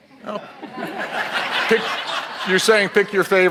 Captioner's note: audience laughs